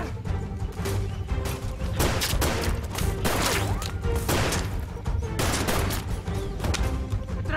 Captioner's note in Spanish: Disparos